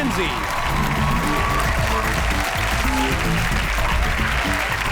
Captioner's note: audience applauds